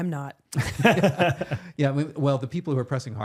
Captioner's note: both laughing